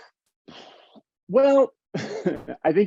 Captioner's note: exhaling; chuckles